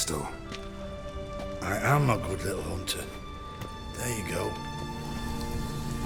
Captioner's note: drowsily